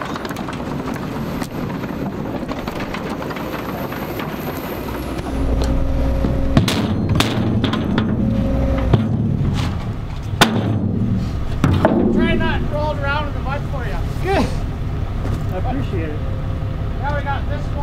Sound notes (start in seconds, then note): 14.2 laughing